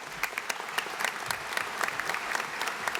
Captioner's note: applause